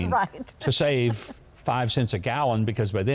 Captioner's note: laughs